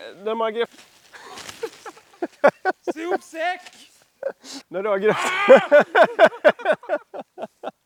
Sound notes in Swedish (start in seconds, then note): 5.2 skratt